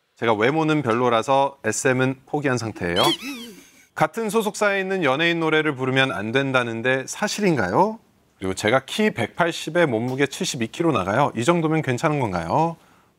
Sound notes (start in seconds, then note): 3.0 bursts into laughter